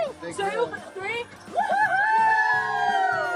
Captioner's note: cheering